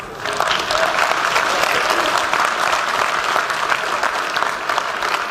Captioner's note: applause